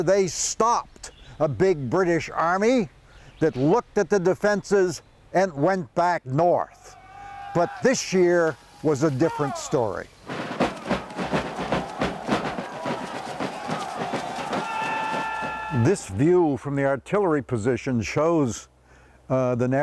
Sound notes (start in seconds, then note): 10.7 drums sounding; 10.7 people screaming